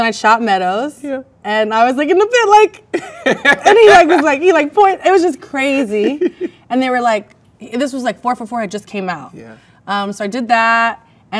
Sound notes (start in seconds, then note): 2.9 man laughs; 5.7 man laughs